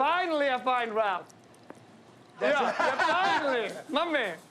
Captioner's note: laughs